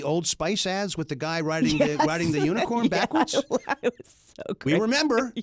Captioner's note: laughs